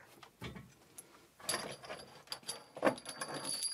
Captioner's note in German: Leises Scheppern und Klingeln